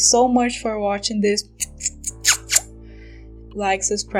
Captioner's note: kiss noises